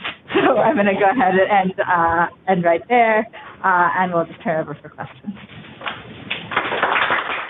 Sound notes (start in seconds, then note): 6.3 applause